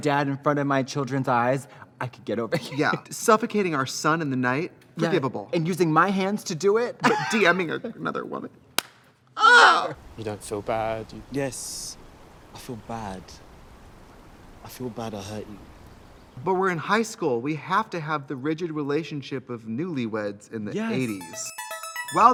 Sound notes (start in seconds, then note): 2.5 laughs; 7.0 laughs; 8.8 slaps leg; 9.4 Trixie cries; 20.9 fun music